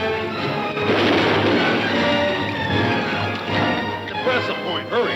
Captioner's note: gun firing